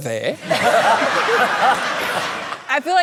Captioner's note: laughter